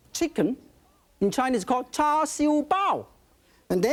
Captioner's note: speaking in foreign language